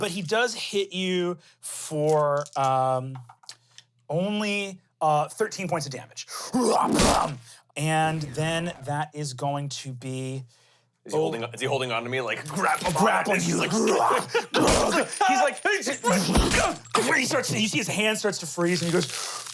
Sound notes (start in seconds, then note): 14.9 growls; 14.9 laughs